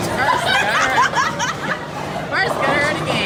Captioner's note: laughs